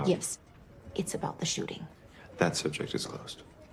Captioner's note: none